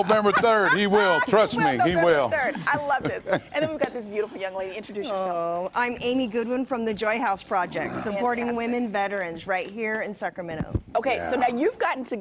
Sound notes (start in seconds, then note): 4.3 laughter